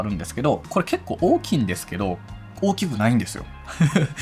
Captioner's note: laughs